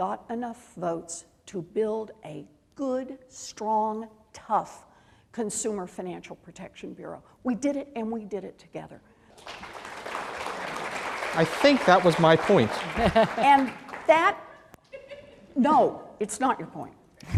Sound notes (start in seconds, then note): 9.3 applause